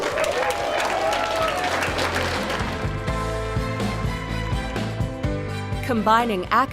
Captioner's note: applause